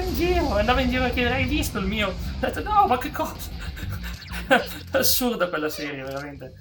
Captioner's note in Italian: risate